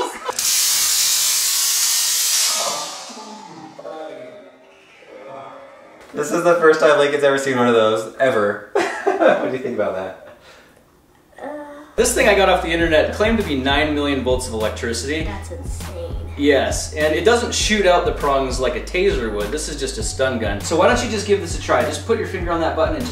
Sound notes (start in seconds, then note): 0.0 laughing and stun gun; 9.5 laughing